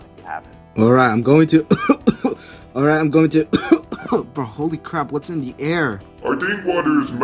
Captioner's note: cough cough